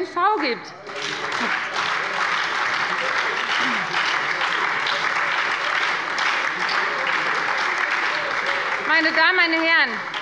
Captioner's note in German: Beifall bei der FDP und der SPD